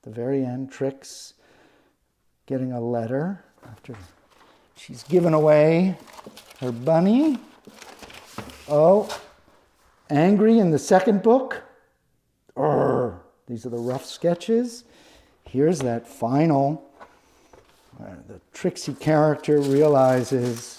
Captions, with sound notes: The very end, Trix getting a letter, after she's given away her bunny. Oh, angry in the second book. (growls) These are the rough sketches. Here's that final Trixie character realizes